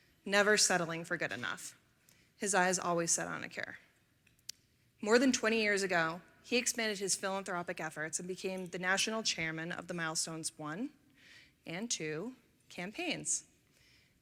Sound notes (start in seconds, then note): none